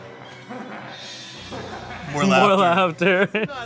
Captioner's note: laughing